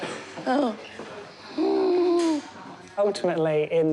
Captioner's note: breathes raspily